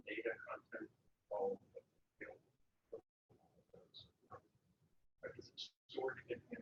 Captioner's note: speaking away from mike